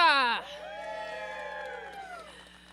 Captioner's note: applause